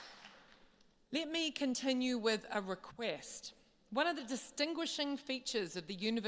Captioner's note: applause